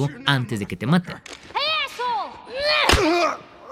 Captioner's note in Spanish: voz de niña; quejidos